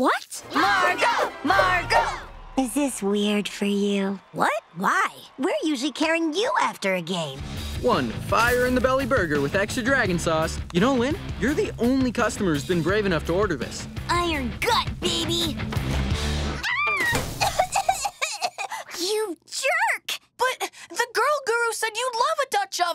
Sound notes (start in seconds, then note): 15.7 squealing; 17.2 coughing